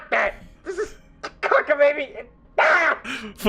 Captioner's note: angry noises